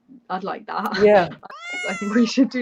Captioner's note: miaowing sound